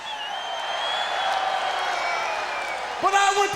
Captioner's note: crowd cheering